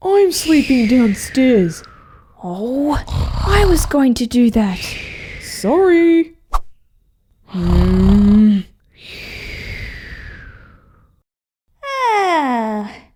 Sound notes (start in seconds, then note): 6.4 whoosh!; 9.1 snoring!